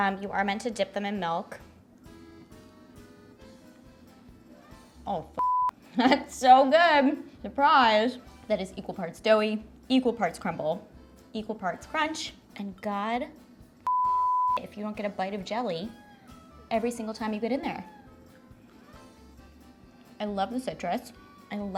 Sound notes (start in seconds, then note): 2.0 bright klezmer music; 5.4 beeps; 13.8 beeps; 15.9 bright klezmer music